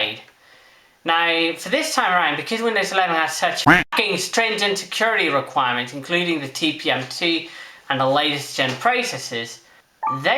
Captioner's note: quack